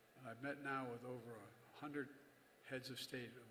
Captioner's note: none